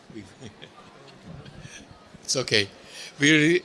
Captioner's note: laughs quietly